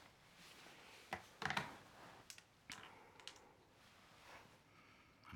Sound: phone clattering

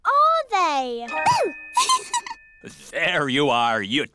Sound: giggles

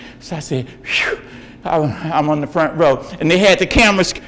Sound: exhales

